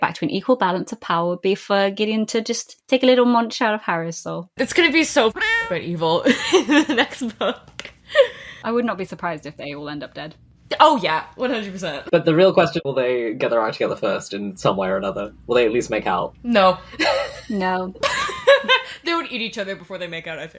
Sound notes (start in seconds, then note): 6.2 laughing; 17.0 laughs